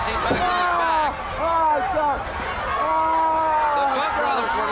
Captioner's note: Ric wailing